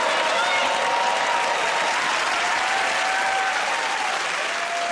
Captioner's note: cheering and applause